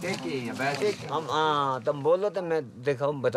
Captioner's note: foreign language spoken